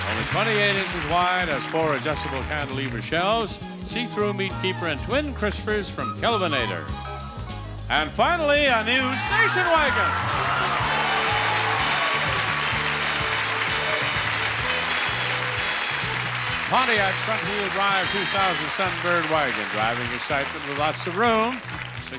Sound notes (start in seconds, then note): 10.3 audience cheers; 10.3 energetic music